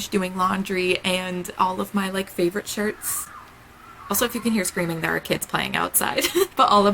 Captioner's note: kids screaming